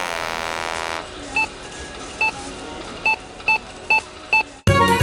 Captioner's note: beep, beep, beep, beep, beep, beep